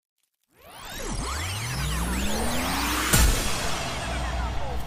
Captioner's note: lasers firing